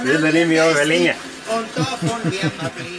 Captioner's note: laughter